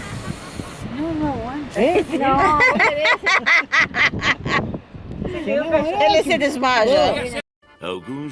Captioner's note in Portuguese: risos